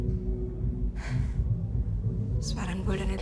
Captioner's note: upbeat music; Ruby sighs; Ruby speaking in foreign language